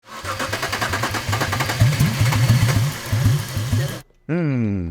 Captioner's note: car engine sputtering